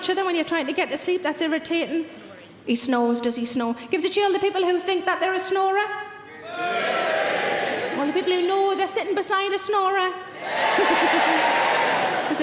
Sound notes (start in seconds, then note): 6.5 audience cheers; 10.4 audience cheers